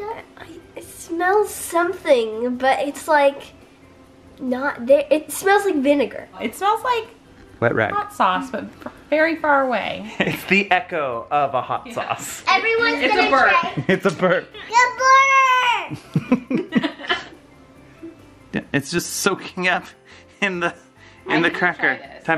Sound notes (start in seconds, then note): 15.9 laughing